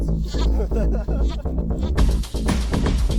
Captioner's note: laughs